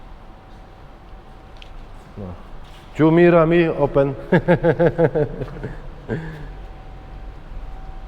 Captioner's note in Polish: śmiech